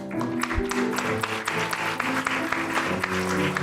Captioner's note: applause